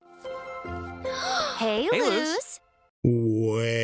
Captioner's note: gasps